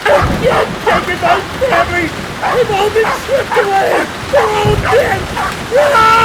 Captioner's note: screaming